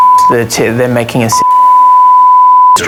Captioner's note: beep